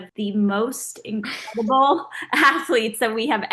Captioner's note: Oksana laughing